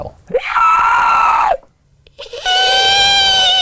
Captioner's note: wheezes; squeaks shrilly